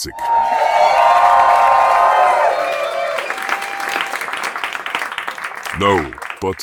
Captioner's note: audience cheering